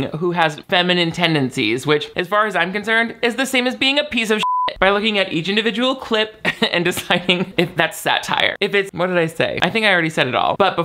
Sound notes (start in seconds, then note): 4.4 beep